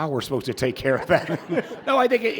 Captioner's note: audience laughing